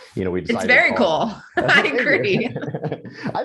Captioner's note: both laugh